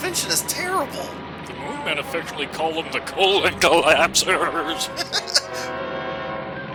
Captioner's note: laughs